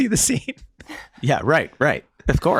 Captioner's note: Charlie laughing